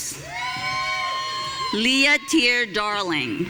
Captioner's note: audience cheering